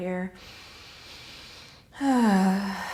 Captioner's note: deep inhale; deep sigh